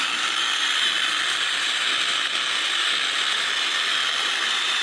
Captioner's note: blender grinding